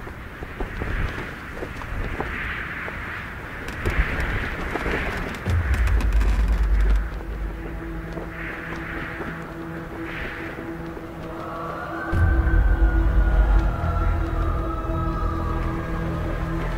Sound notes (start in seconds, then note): 2.3 wind noise; 12.1 chanting